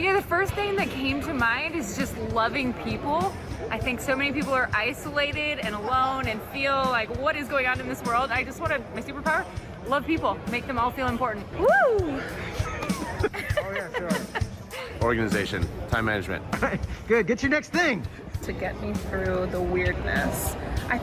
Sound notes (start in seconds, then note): 12.2 laughs